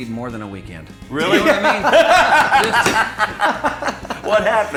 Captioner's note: laughing